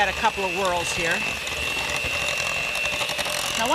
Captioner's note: mixer buzzing